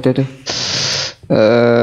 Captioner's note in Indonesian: tarik nafas